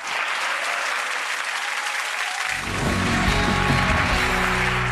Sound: audience clapping

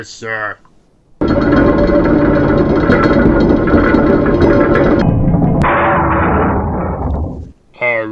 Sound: Throne room door opening

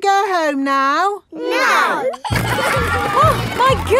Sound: giggling

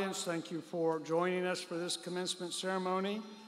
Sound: none

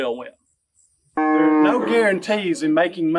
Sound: cow mooing

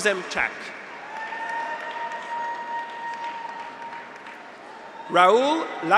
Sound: graduates cheer; audience applauds

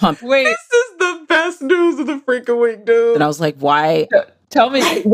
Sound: laughs

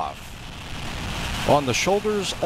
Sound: roar of rockets

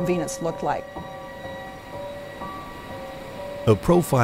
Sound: gases hissing

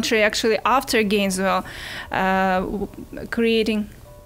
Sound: cell phone ringing

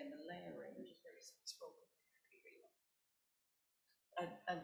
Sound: woman mumbling

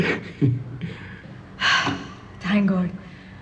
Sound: sighs

